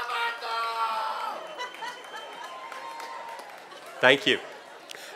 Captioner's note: cheers and applause